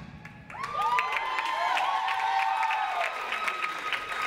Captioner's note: audience applauds